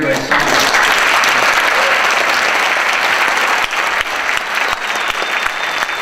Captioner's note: audience applauds